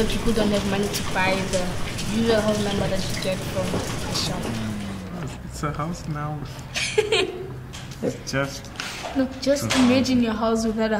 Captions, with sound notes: to buy the usual house number that you get from the shop. So house now it's just... (giggles) No, just imagine your house without a house number,